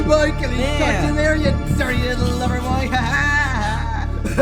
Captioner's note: loud ooohhhs and laughter; taunting continues